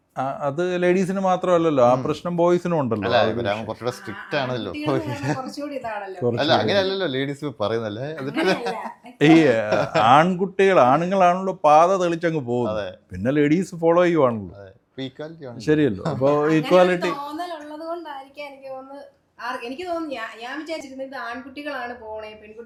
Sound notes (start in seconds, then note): 8.2 laughter